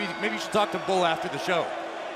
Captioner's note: bell ringing